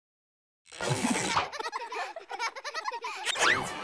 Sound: children laughing

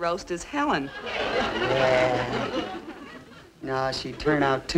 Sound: audience laughing

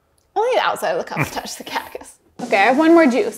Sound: chuckling

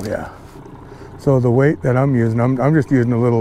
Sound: boat engine idling

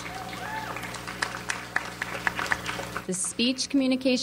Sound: audience applauds

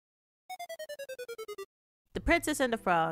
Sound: arcade level up sound; arcade defeated sound

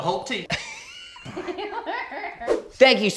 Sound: all laughing

